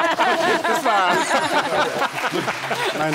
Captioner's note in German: lautes Lachen